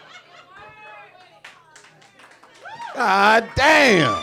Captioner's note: audience laughing; audience cheering